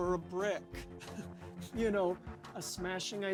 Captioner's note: chuckles